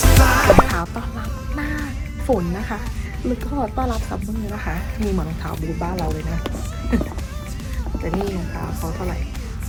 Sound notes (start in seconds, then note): 7.0 laughs